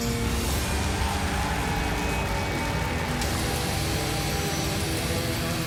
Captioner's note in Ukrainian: оплески